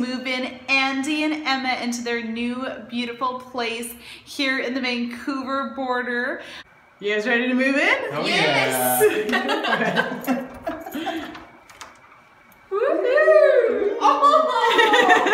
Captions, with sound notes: and Emma into their new beautiful place here at the Vancouver Border. You guys ready to move in? YES! (laughter).